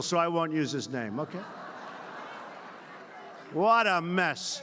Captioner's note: laughter